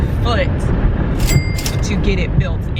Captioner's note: cash register rings